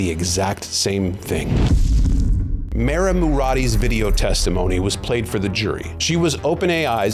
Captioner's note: graphic swooshes